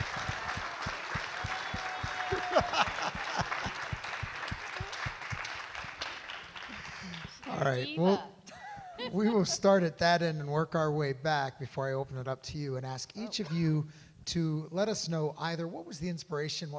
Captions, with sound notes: (audience clap and cheer) (host laughs) - All right. We will start at that end and work our way back before I open it up to you and ask each of you to let us know either what was the inspiration,